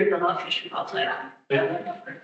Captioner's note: audio cutting out